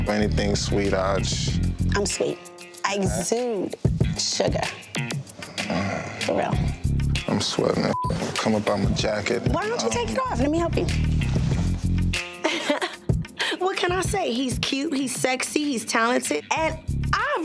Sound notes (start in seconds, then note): 7.9 beep